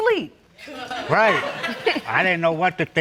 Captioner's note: audience laughs